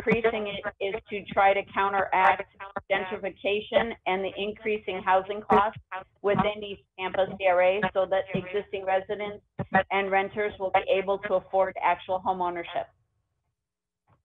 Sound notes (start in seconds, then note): 1.0 ~audio distortion~